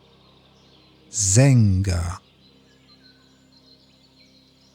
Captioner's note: german